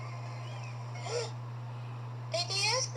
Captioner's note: gasps